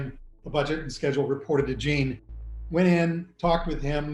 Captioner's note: none